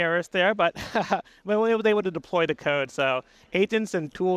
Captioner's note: laughs